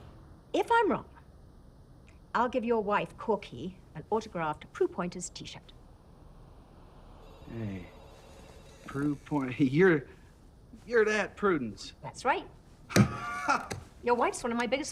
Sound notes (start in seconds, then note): 12.9 detective Jilson bangs desk; 12.9 detective Jislon laughs